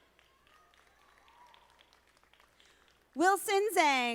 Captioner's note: audience applauding